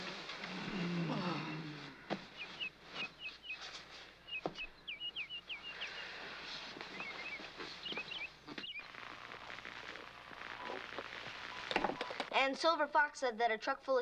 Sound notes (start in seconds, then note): 0.3 groans; 0.4 sighs